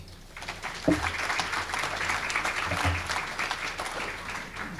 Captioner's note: applause